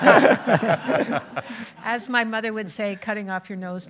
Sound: audience laughing

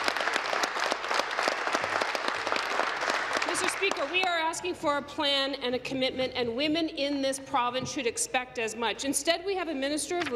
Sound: applause

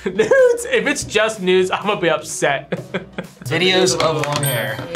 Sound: laughs

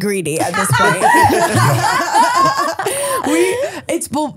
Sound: podcasters laugh

